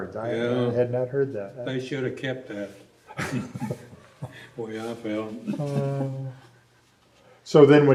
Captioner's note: laughs